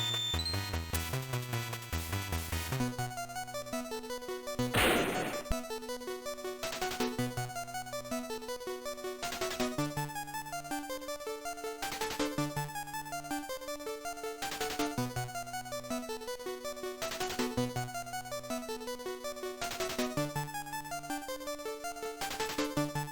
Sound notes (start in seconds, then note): 4.7 slam